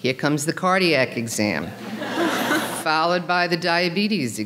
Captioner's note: audience laughing